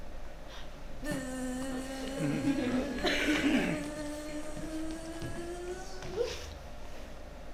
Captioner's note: makes a buzzing sound